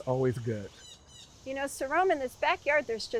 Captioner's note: bird chirping